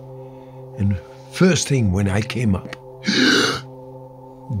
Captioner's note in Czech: nádech